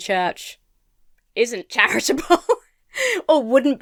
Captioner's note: laughs